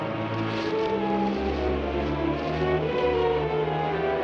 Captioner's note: rustling; suspenseful music